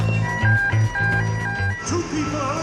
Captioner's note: pagers blaring